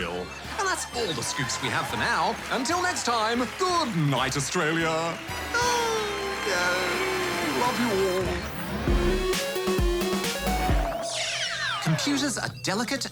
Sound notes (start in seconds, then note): 0.0 laughter; 5.3 cheering, applause